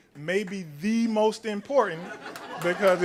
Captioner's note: laughter; applause